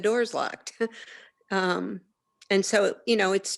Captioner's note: chuckles